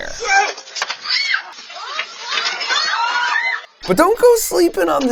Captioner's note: people screaming